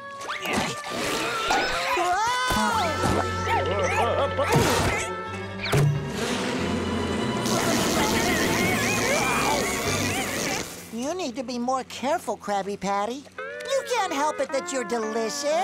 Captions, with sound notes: [grunting] Whoa! [zapping] You need to be more careful Krabby Patty. You can't help it that you're delicious!